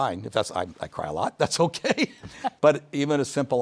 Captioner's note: chuckles